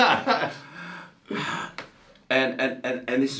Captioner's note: man laughing